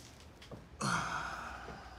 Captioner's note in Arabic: تنهدات